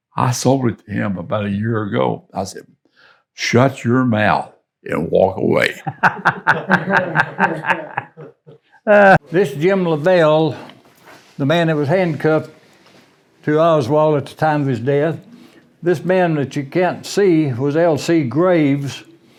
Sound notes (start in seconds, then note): 5.6 interviewee and crew laughing